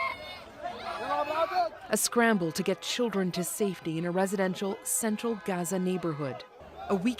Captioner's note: screaming